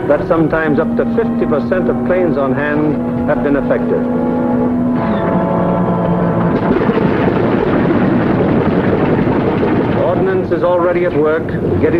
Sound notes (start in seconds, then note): 5.2 plane engines roaring